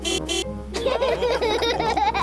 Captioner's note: horn honks; all laughing